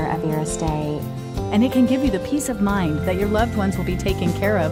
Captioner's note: voiceover